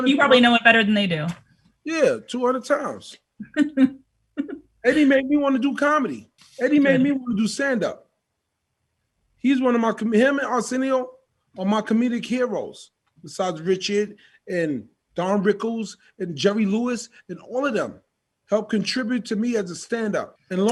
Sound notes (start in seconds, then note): 3.4 laughs